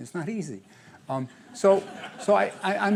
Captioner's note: laughter